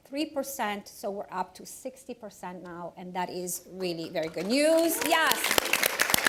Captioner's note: applause